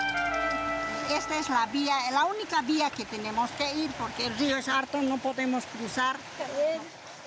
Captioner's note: speaking in foreign language